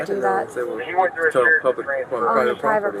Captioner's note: radio chatter